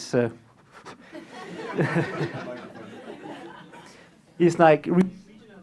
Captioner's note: laughter